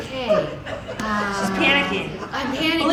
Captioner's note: audience laughing